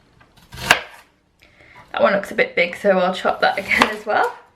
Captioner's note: chopping